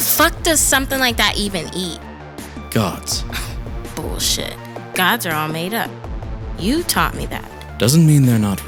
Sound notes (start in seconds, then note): 4.5 scoffs